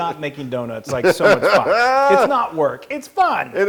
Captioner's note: laugh